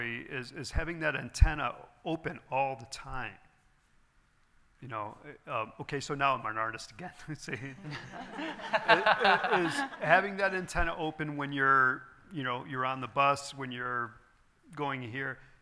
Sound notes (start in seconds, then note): 7.8 laughs; 7.8 audience laughing